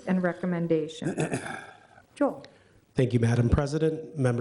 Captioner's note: clears throat